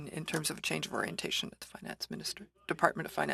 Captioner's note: speaking french